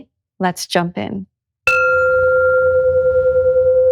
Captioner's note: gong chimes; slow, meditative music begins